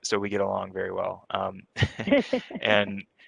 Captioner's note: both laughs